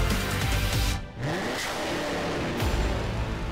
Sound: engine roars

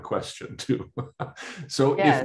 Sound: laughs

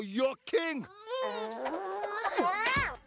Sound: grunting in effort

